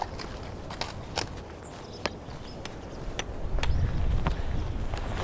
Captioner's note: horse clopping